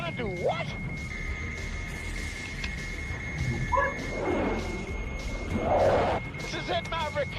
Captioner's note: target system beeping